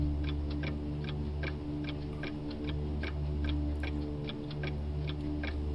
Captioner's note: clock ticking continues